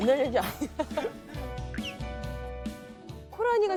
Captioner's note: haha